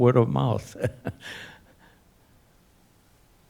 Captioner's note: laughing